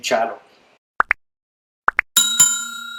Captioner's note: click and ping sound to subscribe